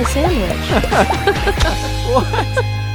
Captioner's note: both laughing